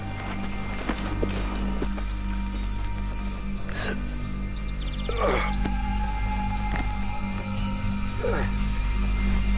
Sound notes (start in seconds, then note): 2.2 dramatic music; 5.0 groans